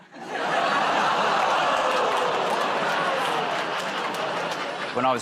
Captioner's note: laughter, groaning